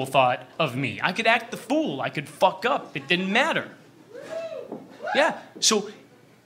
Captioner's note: scattered cheers